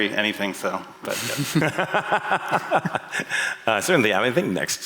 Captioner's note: laughter